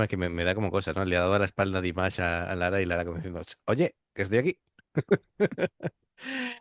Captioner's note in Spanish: risas